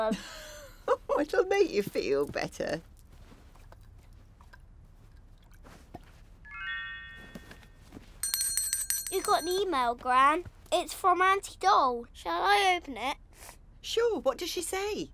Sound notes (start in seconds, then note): 0.1 chuckles; 6.4 tablet pings; 8.1 rings bell